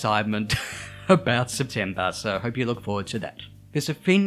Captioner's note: chuckles